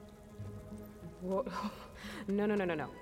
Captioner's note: laugh